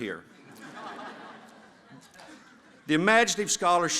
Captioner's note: laughter